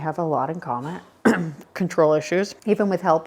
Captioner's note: coughs